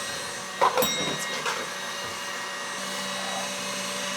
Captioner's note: bell dinging